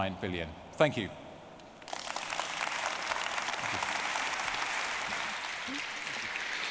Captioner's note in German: applause